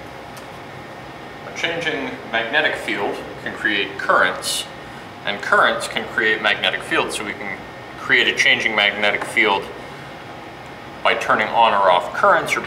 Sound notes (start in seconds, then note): 1.6 voiceover